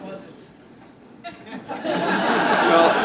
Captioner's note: laughter